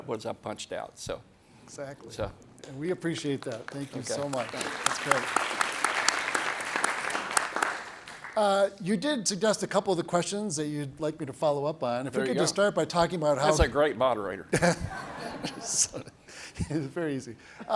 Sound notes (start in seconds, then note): 3.0 audience applauds; 14.5 everybody laughs